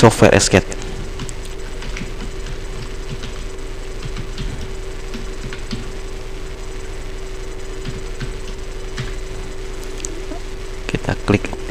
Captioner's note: typing